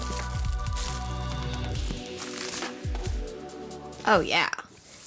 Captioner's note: lively music; paper rustling